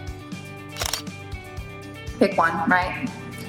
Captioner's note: camera shutters